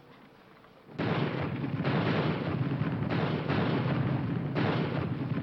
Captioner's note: bombs exploding